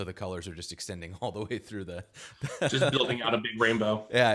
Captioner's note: laughs